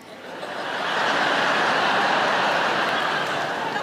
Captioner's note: audience laughing